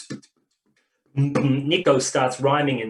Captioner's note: beatboxing